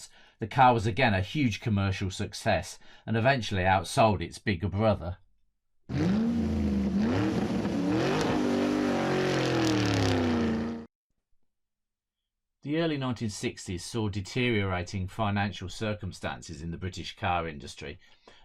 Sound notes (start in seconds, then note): 5.9 sound of car revving